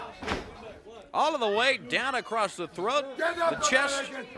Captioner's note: crowd chatter